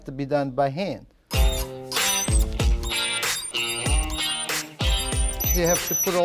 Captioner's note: creaking sound